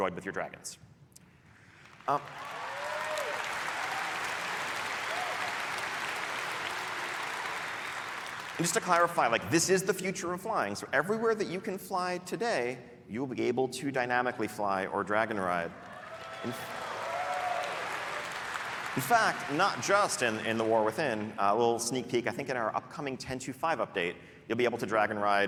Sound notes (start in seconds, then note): 9.7 applause; 12.7 cheering